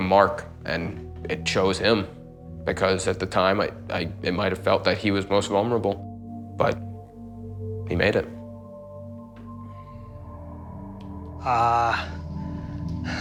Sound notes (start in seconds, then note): none